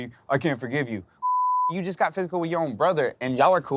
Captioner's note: beep